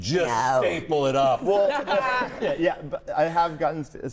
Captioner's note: all laughing